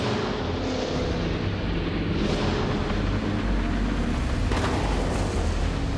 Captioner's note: engines whirring continues